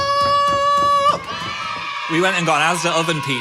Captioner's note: children cheering